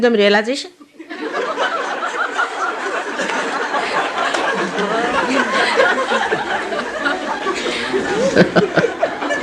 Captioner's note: laughter